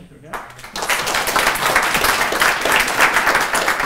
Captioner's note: applause